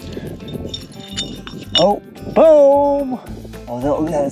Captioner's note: bottles clinking